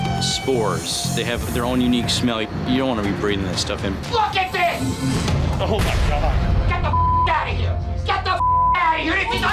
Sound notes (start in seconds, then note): 4.7 intense music continues; 6.8 beep